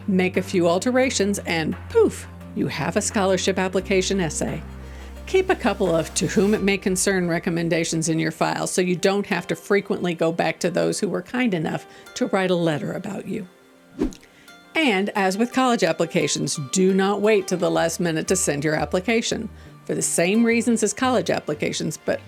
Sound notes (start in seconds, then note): 13.8 gentle music; 14.0 transition whooshing